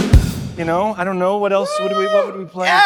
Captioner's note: cheers